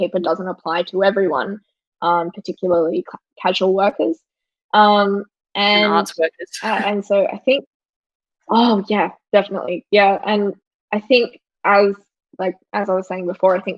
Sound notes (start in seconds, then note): 5.8 laughs